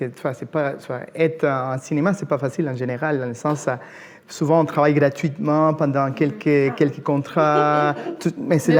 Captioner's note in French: rires